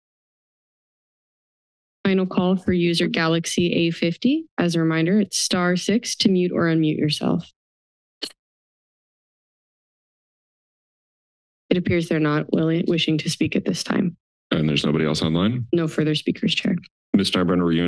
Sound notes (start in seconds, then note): 7.5 silence